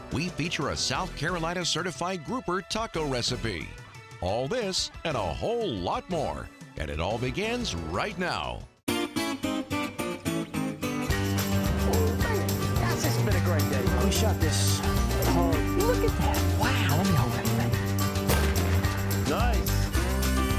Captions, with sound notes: We feature a South Carolina certified grouper taco recipe. All this and a whole lot more. And it all begins right now. (happy, upbeat music) - Yes, it's been a great day. - Who shot this? - Look at that! Wow, let me hold that thing. (gun shot) - Nice.